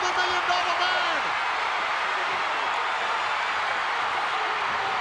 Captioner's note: crowd cheering